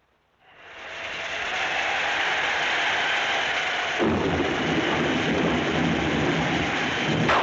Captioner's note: thunder crashing; wind howling